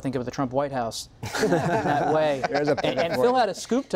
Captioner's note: laughter